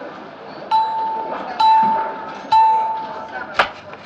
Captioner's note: bell dings